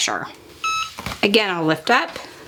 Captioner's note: EasyPress beeping